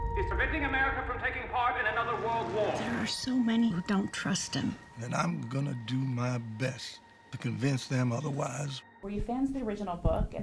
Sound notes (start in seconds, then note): 0.0 ominous music; 2.7 plane engine